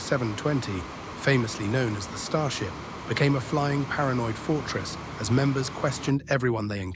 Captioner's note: SFX: jet engine turbine roaring